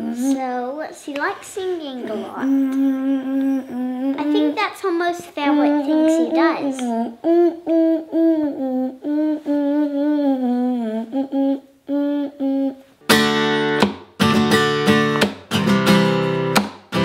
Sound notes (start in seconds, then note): 6.7 humming; 13.0 gentle upbeat guitar music